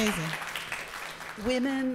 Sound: audience clapping

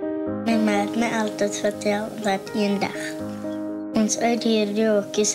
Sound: speaks in Afrikaans

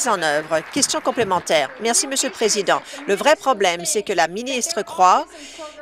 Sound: applause

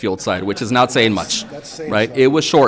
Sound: audience laughing

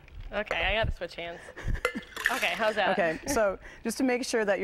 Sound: laughter

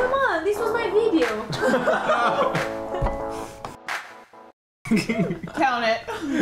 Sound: laughing

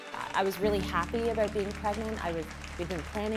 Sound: applause

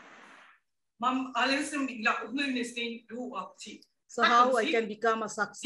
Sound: speaking gibberish

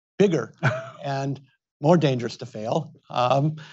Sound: Tom chuckles

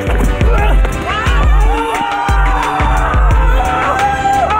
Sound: celebratory screams

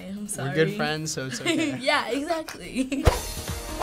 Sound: laughing; adventure music

